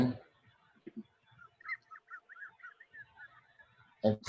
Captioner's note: laughs